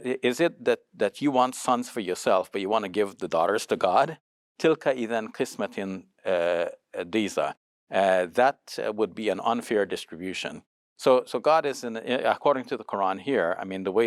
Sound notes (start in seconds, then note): 4.6 speaks in foreign language